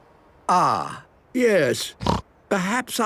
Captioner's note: snorting